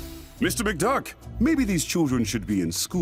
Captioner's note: door opens